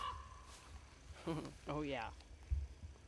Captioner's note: chuckles